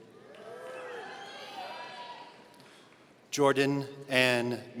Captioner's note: audience cheering